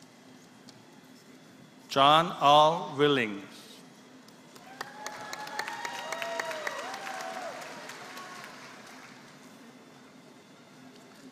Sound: applause

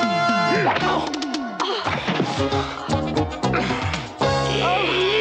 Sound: fighting grunts

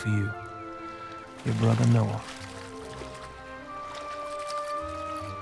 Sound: water sloshing

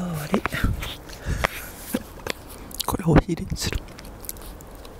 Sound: laughs

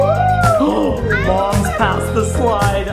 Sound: gasps

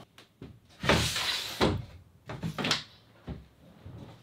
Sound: heavy footsteps

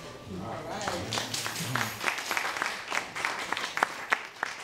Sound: audience applauding

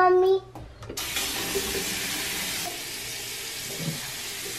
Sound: running water

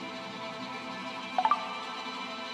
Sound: notification sound

